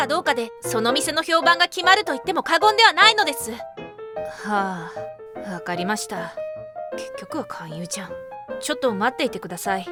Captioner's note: sighs